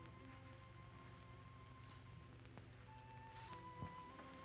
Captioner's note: none